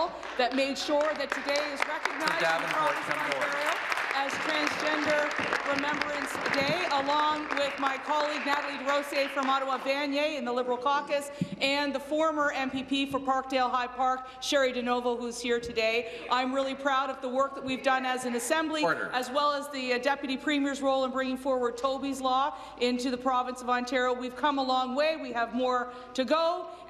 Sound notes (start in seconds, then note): 8.8 applause